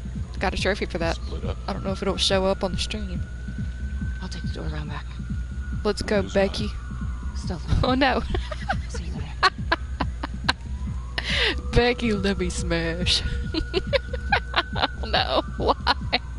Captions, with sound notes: Got a trophy for that. I don't know if it will show up on the stream Let's go, becky Oh no! (laughs) (laughter) Becky, lemme smash! (laughter) no, why!